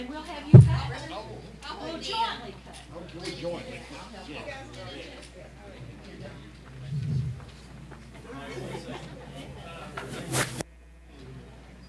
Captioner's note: background talking